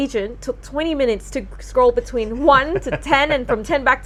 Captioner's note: laughs